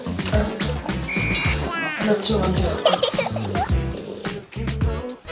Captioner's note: laugh